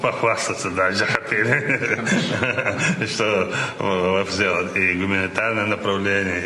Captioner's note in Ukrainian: сміх